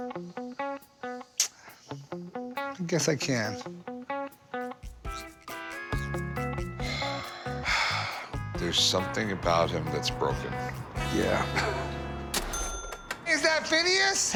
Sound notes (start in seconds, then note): 6.8 Rick and Corey sigh; 11.2 laughs